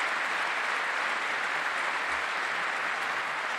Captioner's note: applause